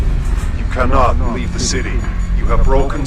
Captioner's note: from aircraft loudspeaker